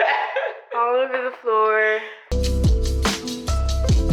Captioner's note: laughing; mellow music